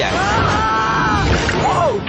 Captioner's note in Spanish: cae y grita